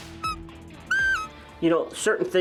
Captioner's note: elk call mewing